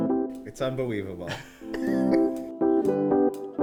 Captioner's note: laughter